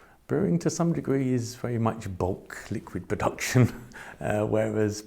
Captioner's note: laughs